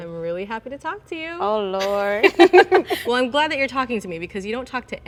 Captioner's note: laughs